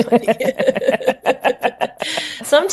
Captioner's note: both laughing